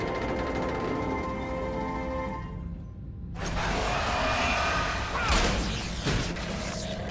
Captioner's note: non-english speech